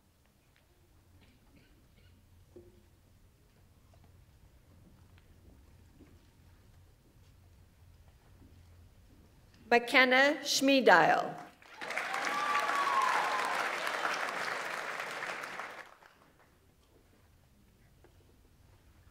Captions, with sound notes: Makenna Schmiedel. (audience applauds) (audience members cheer)